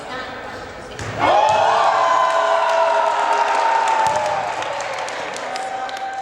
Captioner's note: cheering